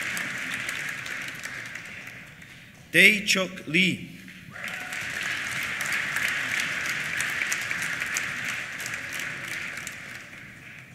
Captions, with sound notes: Dae Chuck Lee. (CHEERS) (APPLAUSE)